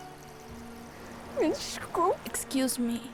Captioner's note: crying, speaking Portuguese